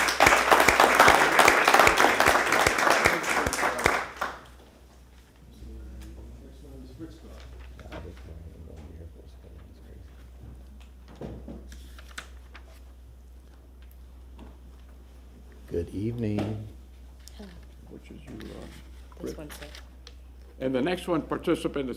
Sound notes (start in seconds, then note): 2.6 applause